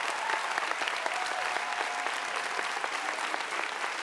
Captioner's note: applause